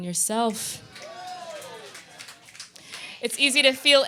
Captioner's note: audience clapping